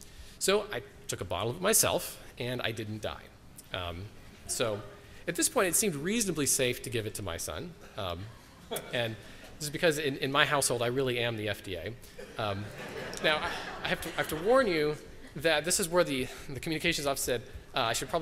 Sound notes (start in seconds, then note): 12.3 laughter